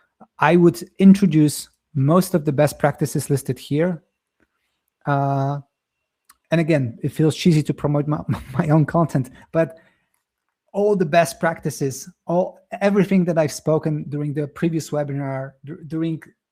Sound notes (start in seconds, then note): 8.2 chuckles